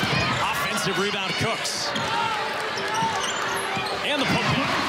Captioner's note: crowd cheers